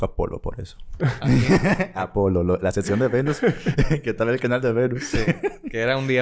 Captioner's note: laughs